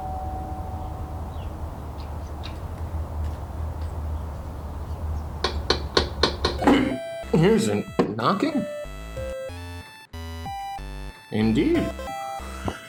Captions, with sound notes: (Knocking) Here's a knocking Indeed